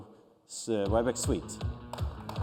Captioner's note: applause